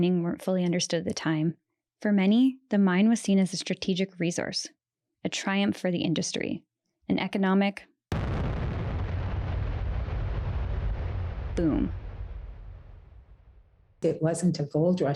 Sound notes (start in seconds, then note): 8.1 exploding